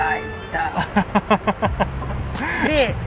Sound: laugh

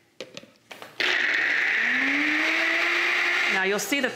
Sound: blender whirring

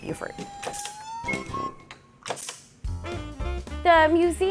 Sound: kazoo-making machine snapping

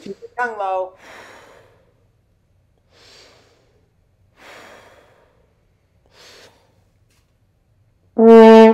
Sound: takes breaths

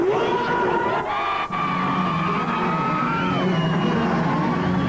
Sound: crowd cheers; upbeat rock music

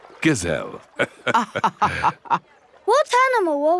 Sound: both laughing

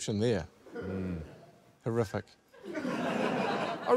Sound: laughter

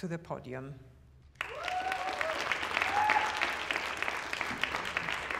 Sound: applause and cheers

